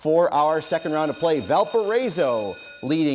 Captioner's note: bell rings